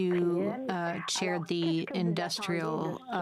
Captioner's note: speaking French